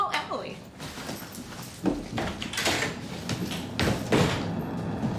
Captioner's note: door bangs shut